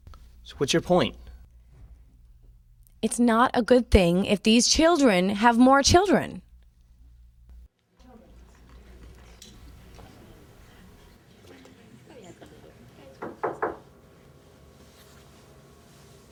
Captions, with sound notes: - So what's your point? - It's not a good thing if these children have more children. (soft chatter) (knocking on door)